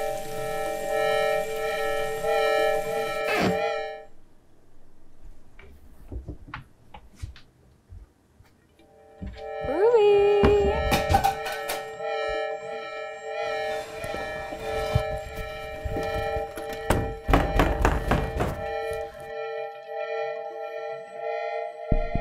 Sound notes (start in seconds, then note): 0.0 water trickling; 3.5 ominous music; 11.8 pan clattering; 15.1 ominous music; 18.8 door thuds